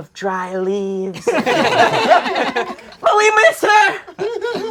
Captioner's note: crowd laughing